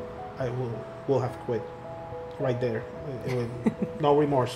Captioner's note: laughter